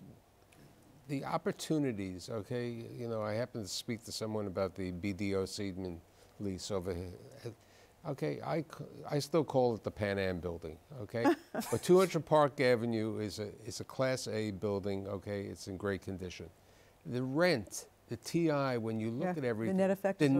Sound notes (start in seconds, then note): 11.2 laughs